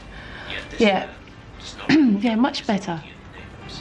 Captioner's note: <i>öksürür</i>